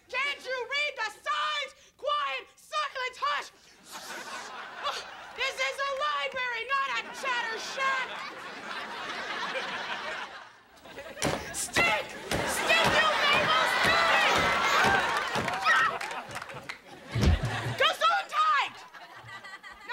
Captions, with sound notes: Can't you read the signs? Quiet! Silence! Hush! Ssh! This is a library, not a chatter shack! Stick! Stick you labels, stick! [screaming] Gesúndheit!